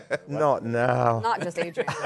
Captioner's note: laughs